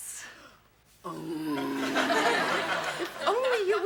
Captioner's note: audience laughs